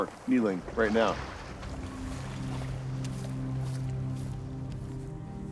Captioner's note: digging and brushing continue